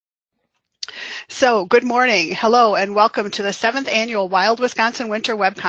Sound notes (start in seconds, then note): 0.0 silence